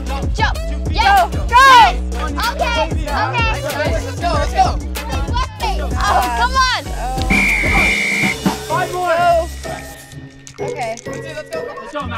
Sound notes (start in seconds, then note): 2.5 group chattering; 7.2 whistle blows